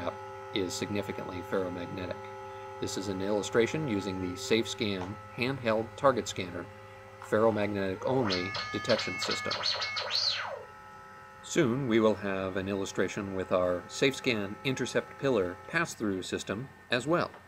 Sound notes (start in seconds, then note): 7.8 alarm